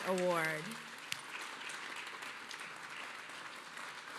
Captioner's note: applause